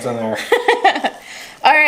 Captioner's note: laughs